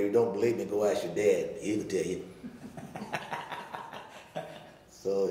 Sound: laughing

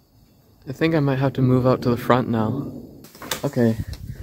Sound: distant thunder

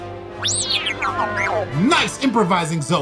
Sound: beeping

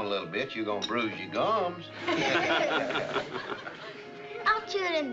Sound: laughing

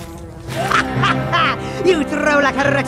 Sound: light clattering; dramatic music; malicious laughter

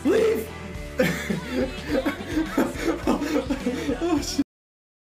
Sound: laughs

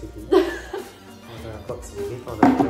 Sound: laughter

